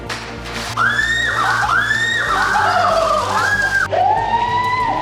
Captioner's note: tape whirl; screams; slowed down screaming